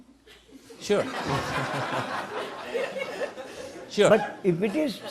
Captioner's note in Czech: smích